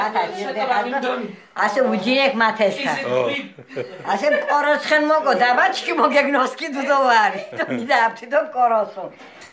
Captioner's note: laughing